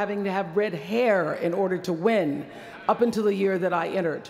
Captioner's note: none